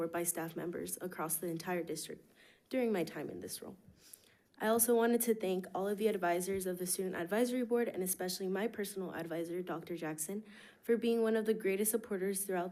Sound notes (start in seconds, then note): none